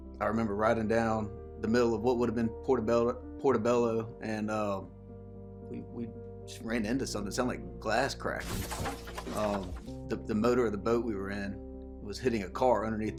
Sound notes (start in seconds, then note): 8.4 glass shattering